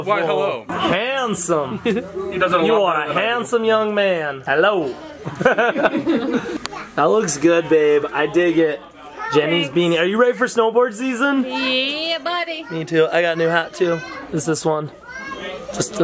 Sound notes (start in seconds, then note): 4.9 laughs